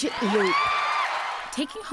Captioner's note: cheering and applause